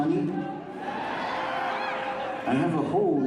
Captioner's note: audience screams